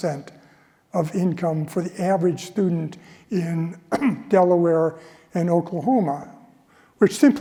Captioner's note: cough